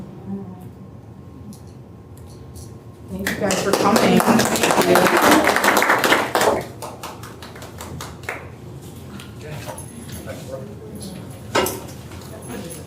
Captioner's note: applause